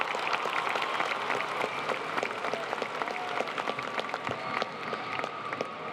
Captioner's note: applause